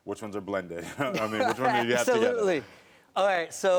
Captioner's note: laughs